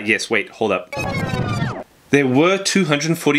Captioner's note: rewind sound effect